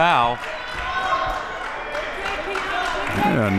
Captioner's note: clapping